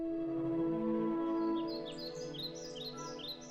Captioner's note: birds chirping